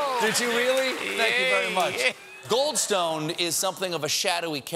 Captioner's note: laughter